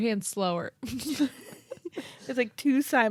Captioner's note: laugh